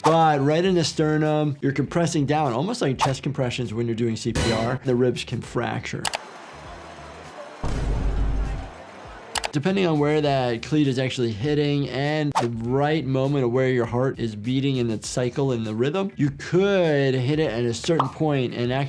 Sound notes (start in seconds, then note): 6.2 people chatter; 6.7 kick thuds